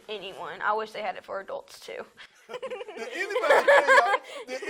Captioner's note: laughs